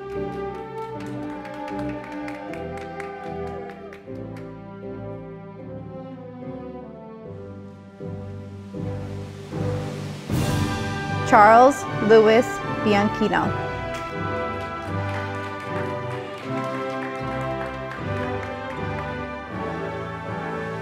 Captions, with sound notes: (audience applauding) Charles Lewis Bianchino, (audience applauding)